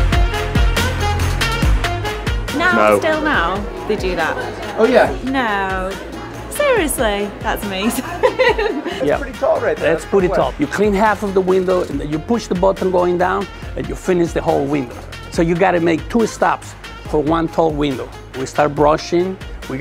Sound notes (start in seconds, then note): 7.7 laughing